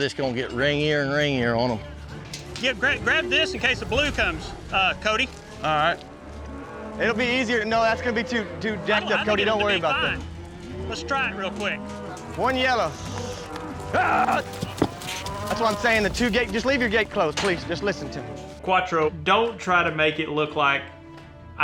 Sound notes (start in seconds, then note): 14.1 hoof beats